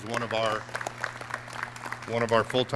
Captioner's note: clapping